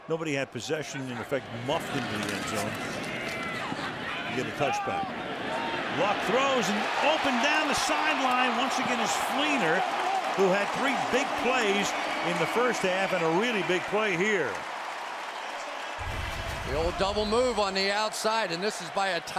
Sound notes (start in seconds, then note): 15.1 cheering; 16.0 pa announcement